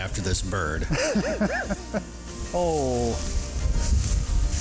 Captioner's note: hunter laughing